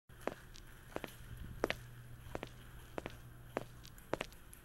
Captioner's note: shoes clacking